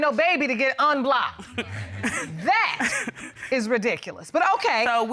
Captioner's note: chuckles